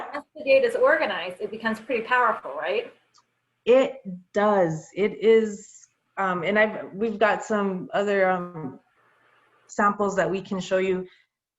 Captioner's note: low connection interference